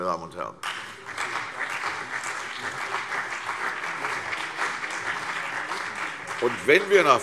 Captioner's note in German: Beifall CDU und BÜNDNIS 90/DIE GRÜNEN